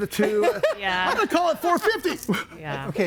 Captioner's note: laughs